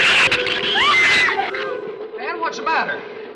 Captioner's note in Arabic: ثرثرة الزبابة; آن تصرخ